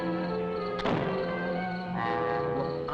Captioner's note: fire sparking